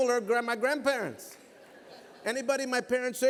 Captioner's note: laughter